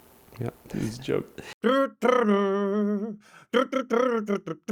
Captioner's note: humming